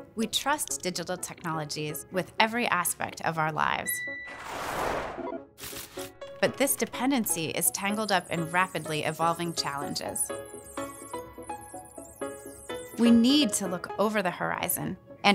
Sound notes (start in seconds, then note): 3.9 machine beeping; 4.4 air whooshing; 4.4 icons whooshing; 5.3 machines beeping